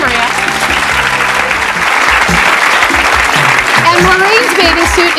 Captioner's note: audience clapping